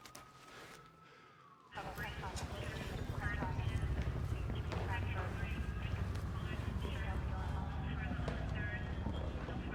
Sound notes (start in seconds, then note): 1.6 police radio chatter